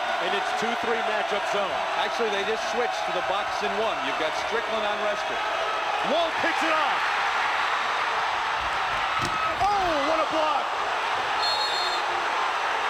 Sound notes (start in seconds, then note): 2.3 cheering